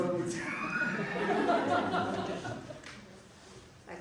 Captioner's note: laughter